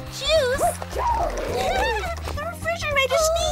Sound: sneezing

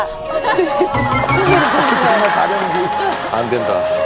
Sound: is drowning with laughter

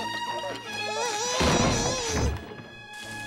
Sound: crying

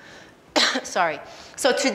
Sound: coughs

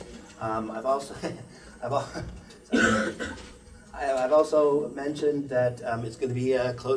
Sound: chuckles

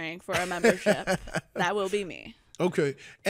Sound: laughing

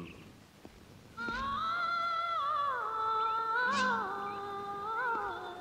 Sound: Radha humming

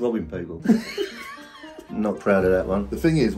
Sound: both laughing

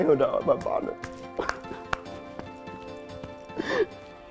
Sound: sobs

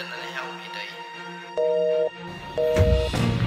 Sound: phone sounds

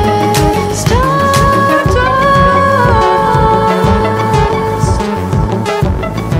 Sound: voice echoing

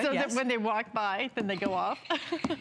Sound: laughter

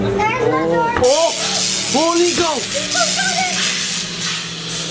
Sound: electricity crackling

